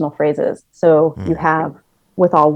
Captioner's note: hums